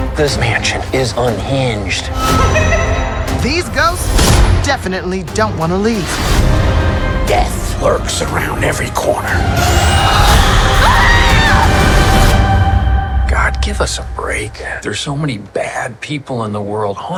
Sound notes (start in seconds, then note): 2.2 ghost cackling; 9.5 shrieking